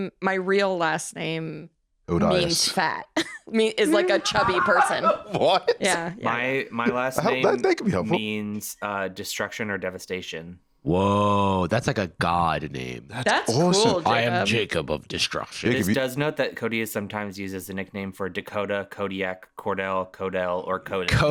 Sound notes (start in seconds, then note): 3.9 laughing